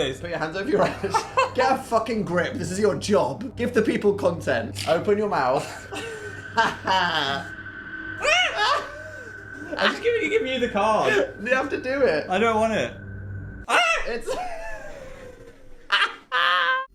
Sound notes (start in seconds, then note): 8.1 screams; 9.2 laughs; 13.8 laugh